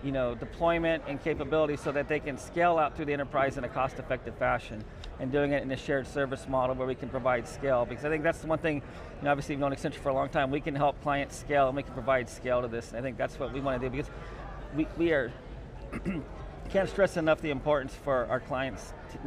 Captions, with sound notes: you know, deployment and capability so that they can scale out through the enterprise in a cost-effective fashion. And doing it in a shared service model, where we can provide scale. Because, I think that's the one thing, you know, obviously, we've known Accenture for a long time. We can help clients scale, and we can provide scale to this. And I think that's what we want to do, because, we are, (clears throat) can't stress enough the importance for our clients